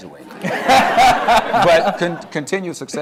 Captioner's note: laughter